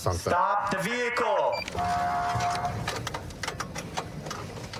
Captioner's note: horn blaring